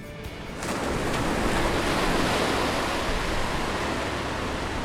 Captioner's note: waves crashing